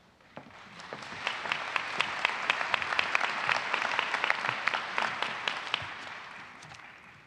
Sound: applause

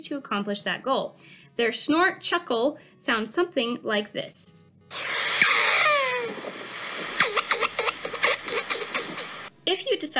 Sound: pronghorn call

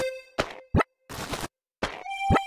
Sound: footsteps

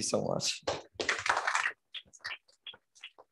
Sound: applause

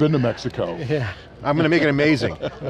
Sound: laughing

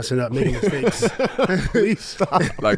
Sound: group laughs

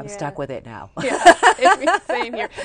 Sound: laughter

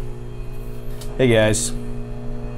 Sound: machine whirring continues

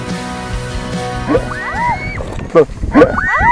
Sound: screams

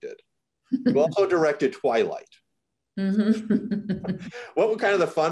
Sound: chuckles

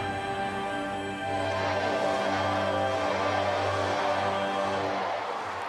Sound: chanting

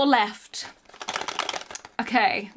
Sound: box rattling

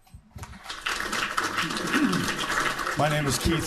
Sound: applauding

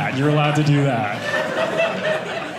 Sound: audience laughing

